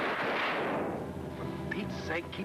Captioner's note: gunshot bangs